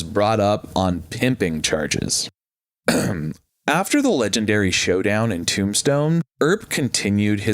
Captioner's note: ahem